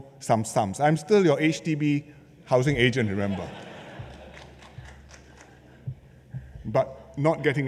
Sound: laughter

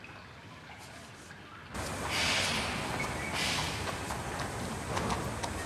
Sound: hoof beats

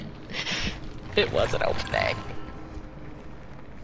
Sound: whines

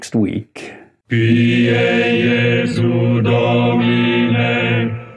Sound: chanting in Latin

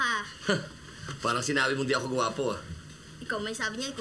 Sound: scoffs

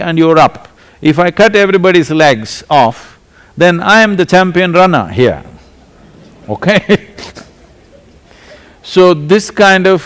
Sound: laughter

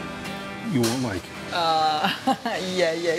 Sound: laughs

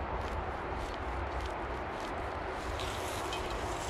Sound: scratching

